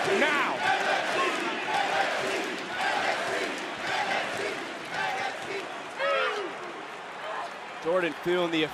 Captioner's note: crowd chants "nxt"